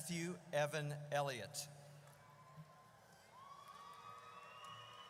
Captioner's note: audience cheers